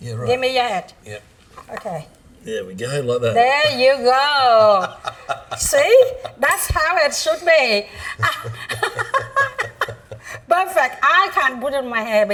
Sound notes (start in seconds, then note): 5.1 laughing; 8.2 laughing